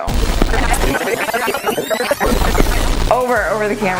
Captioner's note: digital rewind whirring